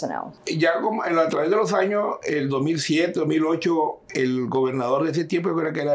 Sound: speaking in Spanish

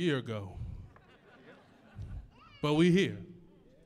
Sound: audience laughs

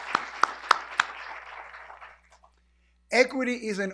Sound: applause

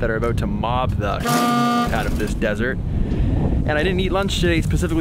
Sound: honk

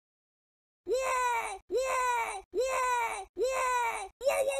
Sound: Crash Voice

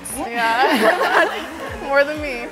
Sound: laughter

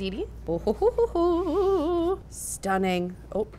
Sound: laughter

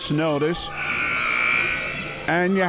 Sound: buzzer sounding

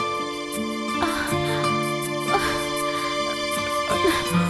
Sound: groans

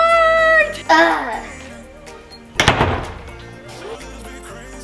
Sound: grunts

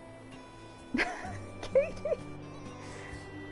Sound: laughs

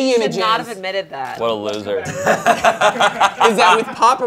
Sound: laughing

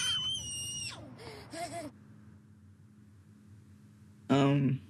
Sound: baby screaming

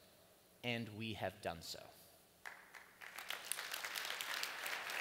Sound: applause

